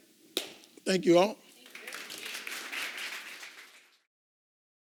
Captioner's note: applause